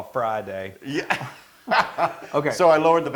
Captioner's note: laugh